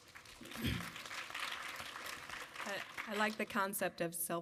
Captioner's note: audience applaud